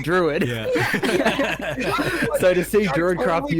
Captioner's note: excited laughter